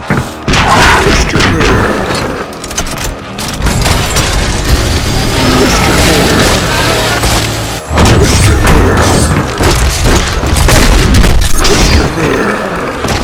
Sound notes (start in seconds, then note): 2.3 sound of the gruesome death